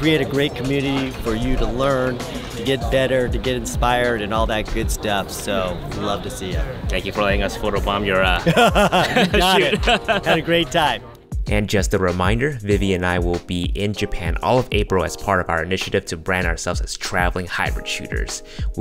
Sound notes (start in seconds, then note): 8.4 laughing